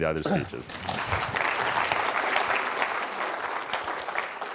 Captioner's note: clapping